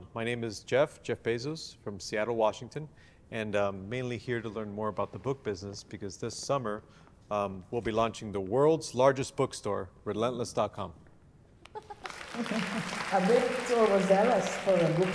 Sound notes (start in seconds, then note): 11.7 applause